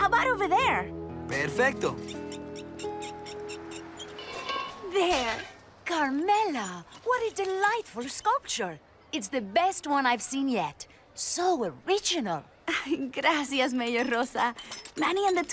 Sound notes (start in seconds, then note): 3.2 dolly's wheels squeak